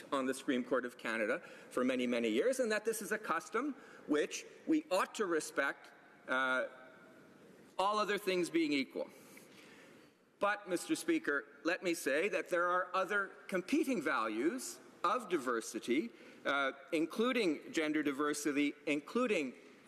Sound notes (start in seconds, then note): none